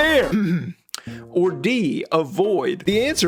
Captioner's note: clears throat